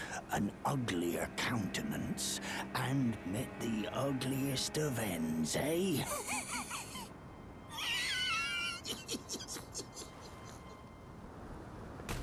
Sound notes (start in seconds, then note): 6.0 more wheezing laughter